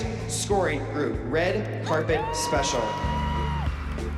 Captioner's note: cheering